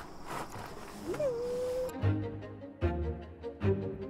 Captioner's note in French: chantonnement